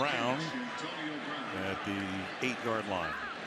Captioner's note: pa announcement